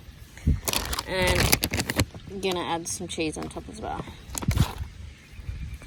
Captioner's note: packet rustles loudly